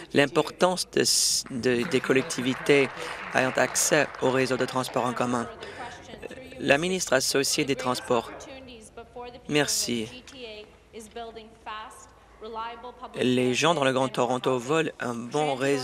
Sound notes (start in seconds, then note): 5.7 applause